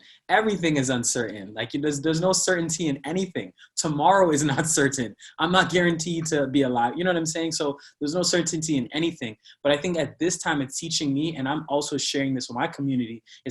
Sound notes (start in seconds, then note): 3.5 laughing